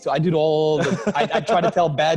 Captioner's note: laughs